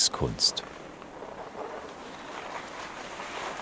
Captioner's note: snow crunch